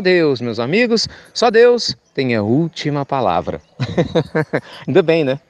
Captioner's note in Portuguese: Risos